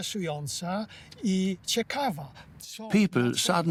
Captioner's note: in Polish